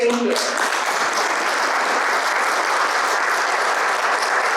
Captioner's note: audience applauds